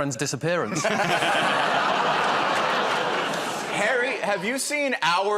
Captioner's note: laughter